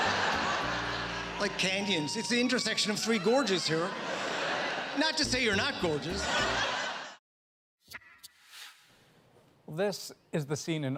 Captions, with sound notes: [audience laughter] ..like canyons. It's the intersection of three gorges here. Not to say you're not gorgeous.